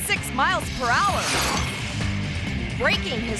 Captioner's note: bicycle whooshing